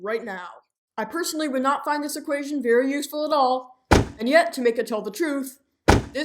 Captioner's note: thump